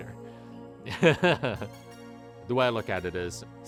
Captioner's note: laughs